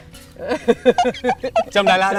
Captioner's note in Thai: เสียงหัวเราะ